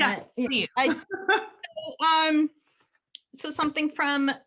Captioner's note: laughter